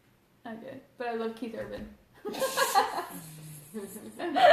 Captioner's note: laughs